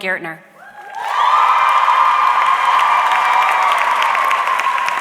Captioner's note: audience cheering